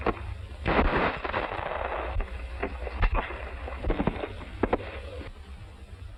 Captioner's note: gunshot